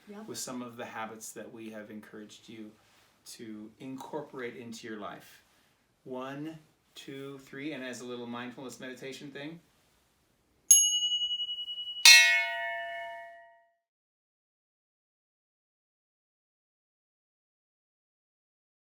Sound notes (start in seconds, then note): 10.7 chiming; 10.7 clanging